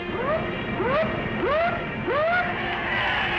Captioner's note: whistling; loud cheering